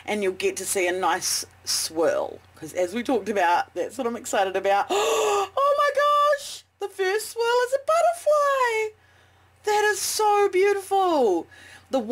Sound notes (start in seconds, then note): 4.9 gasp